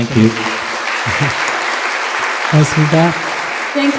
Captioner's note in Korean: 청중 박수